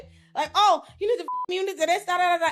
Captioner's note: beep